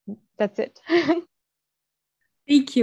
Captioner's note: laughs